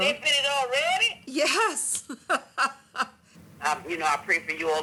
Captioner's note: laughs